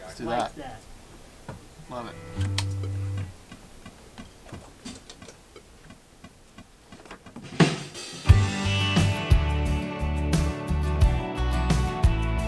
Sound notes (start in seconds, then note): 3.0 metronome beeping; 8.0 upbeat rock music